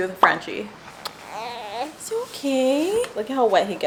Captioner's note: baby crying